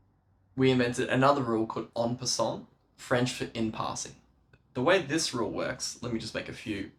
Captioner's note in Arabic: بالفرنسية